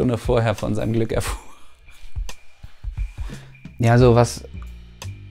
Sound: laughs

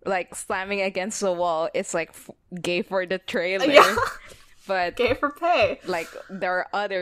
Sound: laughs

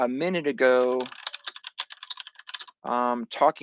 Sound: keyboard clicking

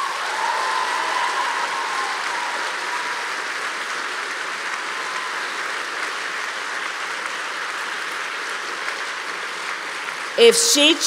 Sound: applause

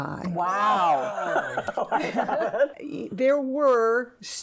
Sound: women laughing

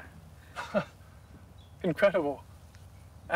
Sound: Thomas laughs

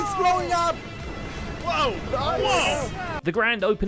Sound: many people gasping/shouting in awe

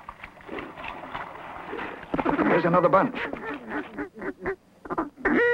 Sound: duck call

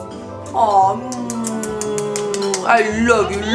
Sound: making kissing noises

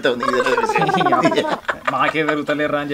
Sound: laughs

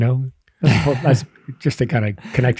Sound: laughing

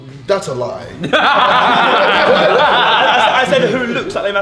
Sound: laughing

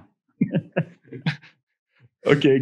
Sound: laughs

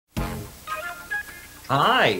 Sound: playful music; static hisses

